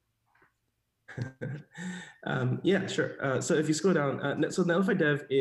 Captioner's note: laughs